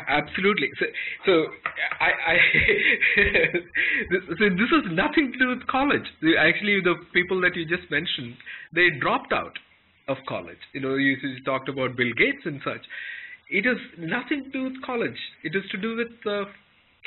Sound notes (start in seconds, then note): 1.5 laughter